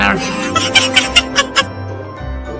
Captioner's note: Evil Fairy laughs